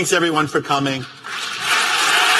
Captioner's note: applause